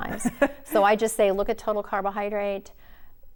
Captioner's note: laughing